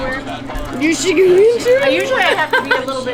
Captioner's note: laughs